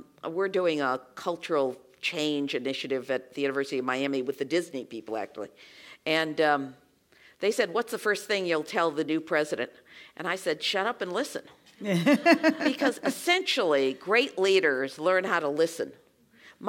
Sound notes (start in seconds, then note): 11.8 laugh